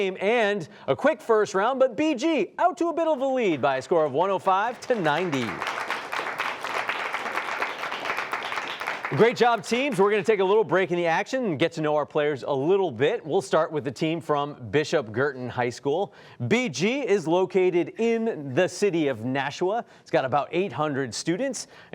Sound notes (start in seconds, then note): 5.8 applause